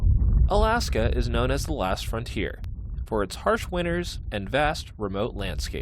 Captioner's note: voice-over